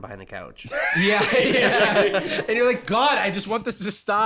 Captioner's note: laughs